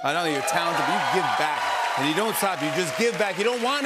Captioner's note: cheers and applause